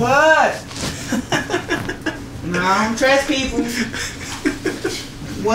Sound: laughs

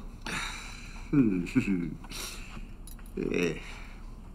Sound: Harry chuckles

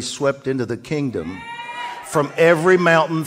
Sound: audience cheers

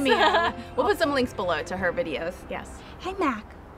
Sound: laughing

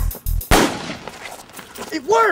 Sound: gun fires

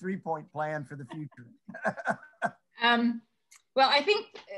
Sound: laughing

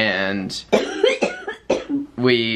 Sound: coughing

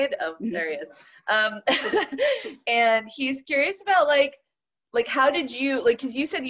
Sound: chuckles

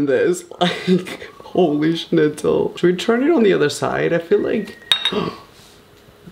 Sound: coal drops into plate

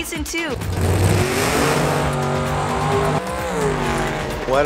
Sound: car engine revs

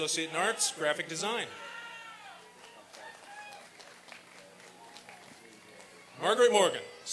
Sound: applause and cheering

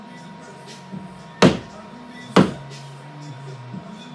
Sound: hammer banging

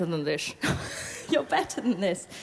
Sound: laughs

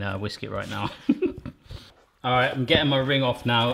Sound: laughs

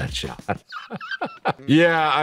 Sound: laughing

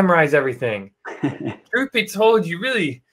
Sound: laughs

